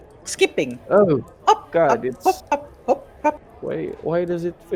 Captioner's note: skipping noises